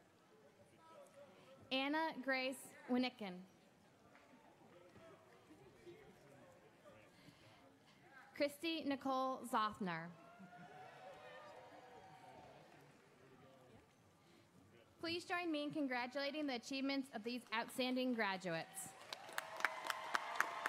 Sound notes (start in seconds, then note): 10.6 audience applauds